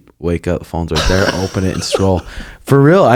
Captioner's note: laughs